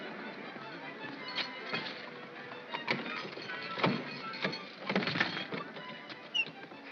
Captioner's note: lock clatters